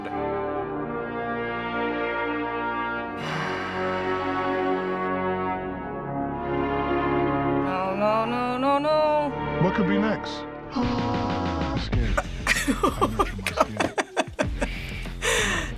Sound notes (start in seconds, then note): 0.2 unsettling music; 3.2 exhales; 10.6 gasping; 12.0 laughing